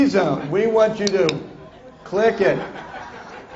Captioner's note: demonstrates clicker